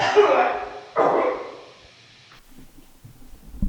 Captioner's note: Jacob coughing